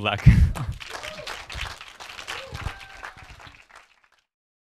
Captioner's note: audience clapping